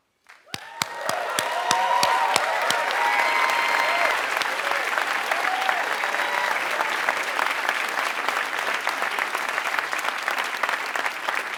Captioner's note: applause